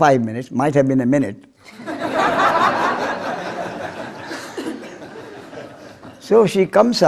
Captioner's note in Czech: smích